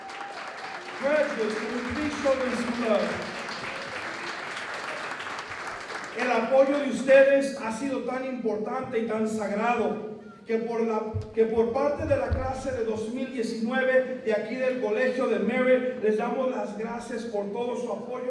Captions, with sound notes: Graduates, can we please show them some love? [APPLAUSE] [NON-ENGLISH SPEECH]